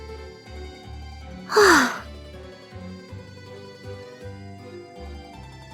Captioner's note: sigh